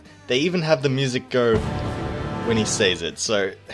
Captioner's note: epic boom